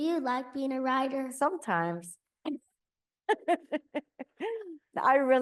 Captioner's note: laughs